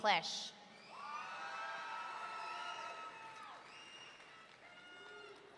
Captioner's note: audience cheering